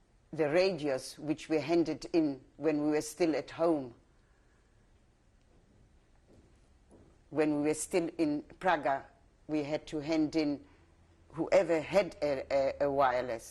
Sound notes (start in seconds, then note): 3.6 pauses for 3 seconds